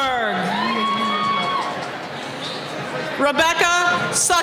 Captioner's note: cheering